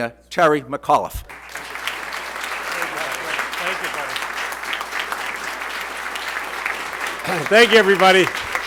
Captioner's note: applause